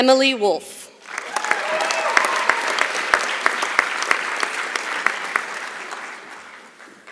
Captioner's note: applause